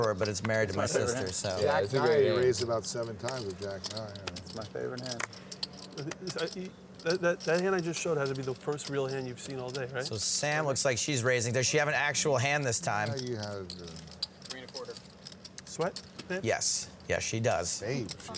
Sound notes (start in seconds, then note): 13.6 chattering